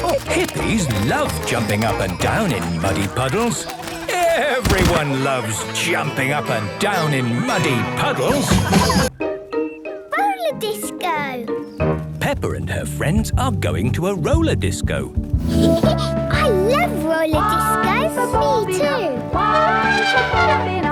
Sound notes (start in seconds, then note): 15.4 Peppa laughing; 19.3 trumpeting